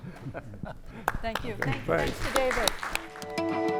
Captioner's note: applause